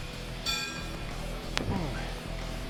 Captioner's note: weights clinking; upbeat rock music continues